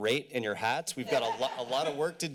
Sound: laughter

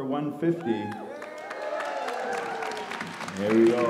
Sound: audience cheers and applause

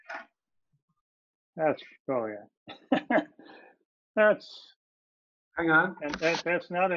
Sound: laughing

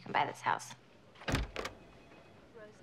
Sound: door clunking

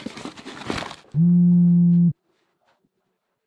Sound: phone vibrates

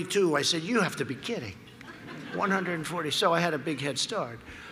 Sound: laughter

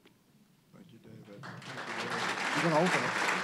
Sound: applause

